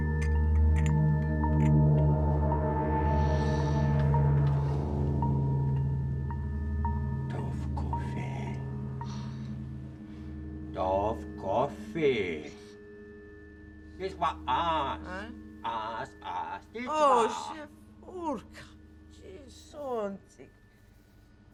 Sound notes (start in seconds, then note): 0.0 cup clanging; 6.7 man speaking in unknown foreign language; 15.5 woman speaking in unknown foreign language